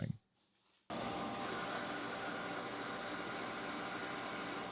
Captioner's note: drill whirring